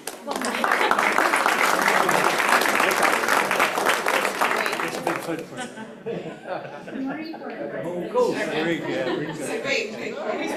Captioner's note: applause